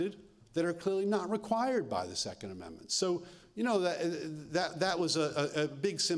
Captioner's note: none